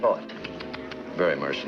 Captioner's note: Dan clicking tongue